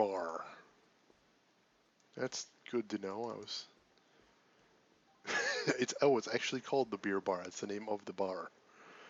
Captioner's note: laughs